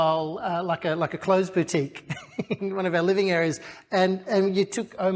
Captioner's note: laughs